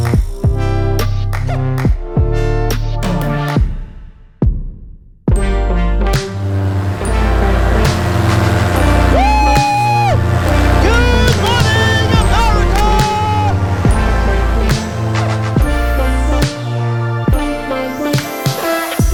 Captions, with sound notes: (engine rumbling) Woo! Good morning, America! (uplifting music)